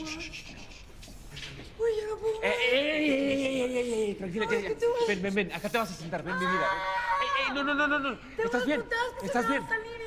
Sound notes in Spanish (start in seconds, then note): 6.4 Grito